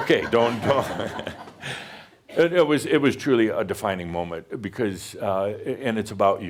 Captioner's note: Adamus chuckles; more chuckles